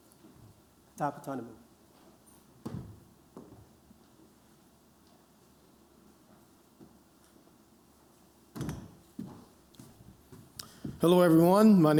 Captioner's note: non-english speech